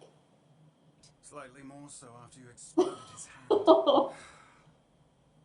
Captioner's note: laughter